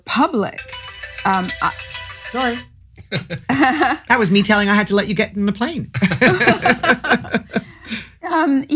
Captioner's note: phone rings